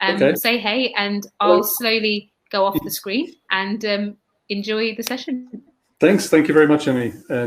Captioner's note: erm